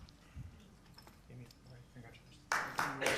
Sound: applause

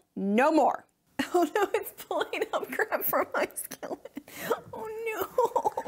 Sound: laughing

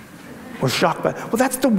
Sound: audience laughs

